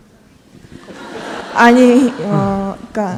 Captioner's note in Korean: 청중 웃음